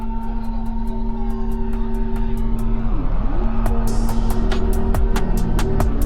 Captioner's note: street noise